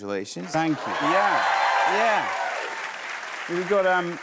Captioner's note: cheers and applause